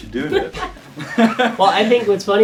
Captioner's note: all laughing